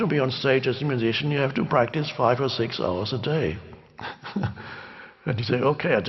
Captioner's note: chuckles